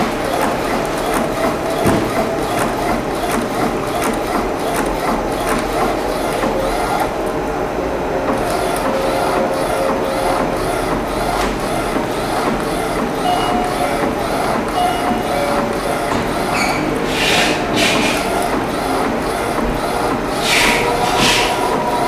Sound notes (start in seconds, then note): 0.0 printer machine sound; 13.0 doorbell sound; 13.0 printer machine sound